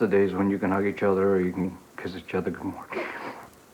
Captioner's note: cries